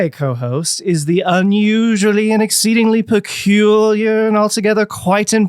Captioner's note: sing song voice